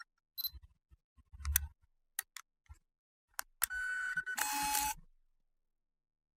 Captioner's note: camera sounds